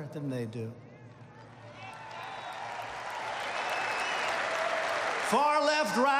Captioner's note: applause